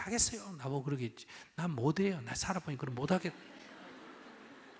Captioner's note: audience Laughter